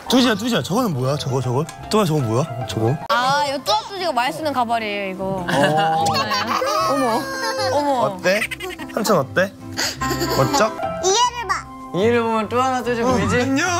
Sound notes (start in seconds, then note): 5.5 laughs